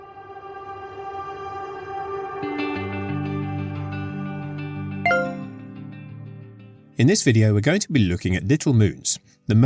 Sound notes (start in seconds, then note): 0.1 intro music; 5.0 a ping noise